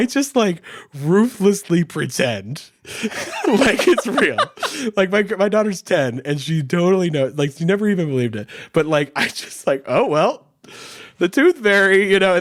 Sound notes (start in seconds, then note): 2.9 laughing; 3.0 chuckles